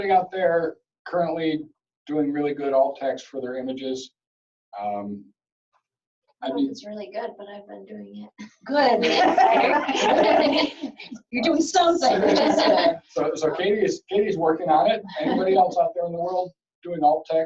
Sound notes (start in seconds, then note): 6.4 chatter